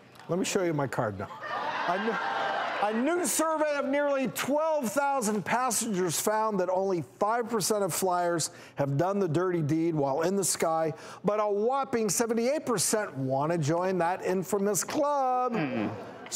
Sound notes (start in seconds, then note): 2.2 audience gasping